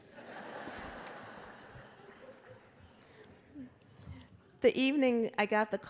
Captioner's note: laughter